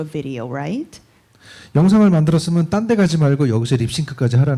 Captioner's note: speaking korean